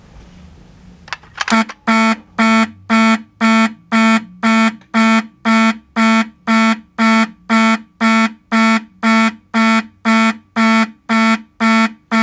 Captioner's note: fast fire beeper beeping noises